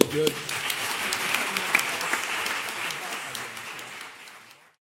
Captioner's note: applause